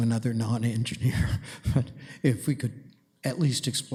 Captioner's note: chuckles